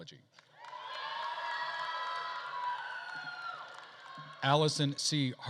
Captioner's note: attendees cheering and applauding